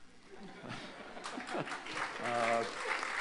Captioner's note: laughter; applause